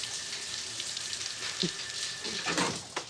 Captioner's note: chuckling